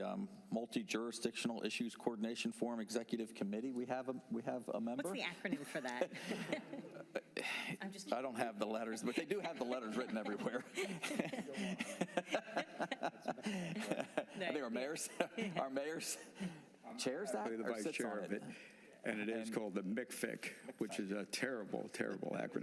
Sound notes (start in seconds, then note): 13.4 laughter